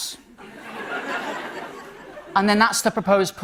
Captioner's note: light laughter